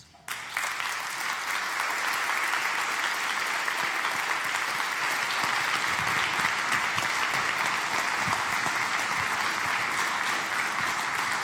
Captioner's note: applause